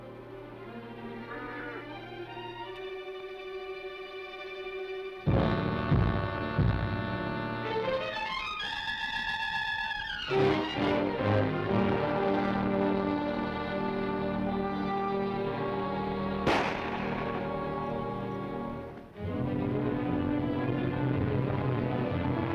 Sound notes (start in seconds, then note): 0.0 dramatic orchestral music; 16.4 gun fires